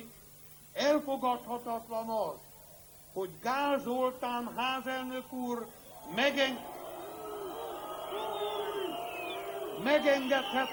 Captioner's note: booing